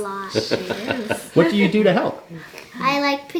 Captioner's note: dad laughing